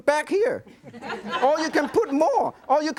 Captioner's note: audience laughing